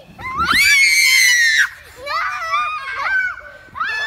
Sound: girls screaming

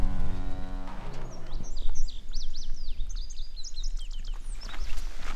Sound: birds chirping; footsteps pattering

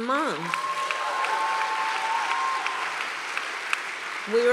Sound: applause

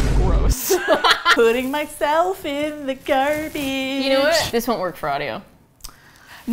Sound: boom; both laugh; singsong; bag crinkles

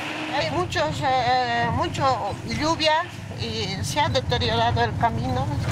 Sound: speaking in foreign language

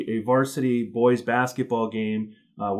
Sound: none

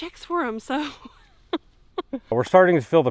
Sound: nervous giggle

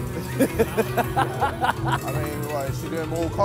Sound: laughter

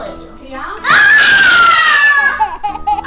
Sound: scream

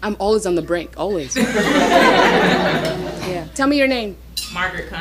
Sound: audience laughing

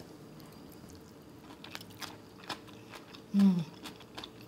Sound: munching the cucumber

